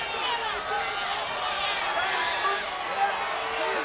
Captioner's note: crowd shouting